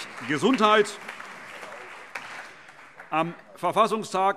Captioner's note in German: Allgemeiner Beifall